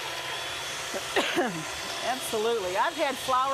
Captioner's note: coughing